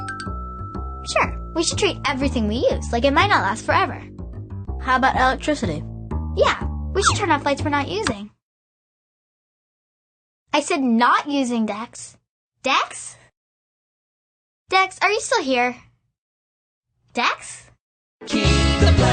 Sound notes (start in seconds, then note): 0.0 ding; 8.4 silence